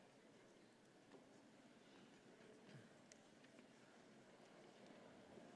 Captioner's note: none